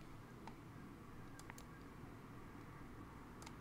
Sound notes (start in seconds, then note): 1.2 clicks mouse